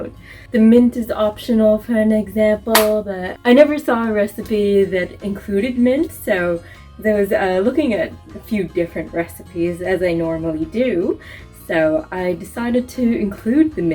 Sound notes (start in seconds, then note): 2.7 hand clap